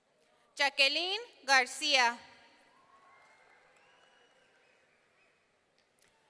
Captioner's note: audience cheering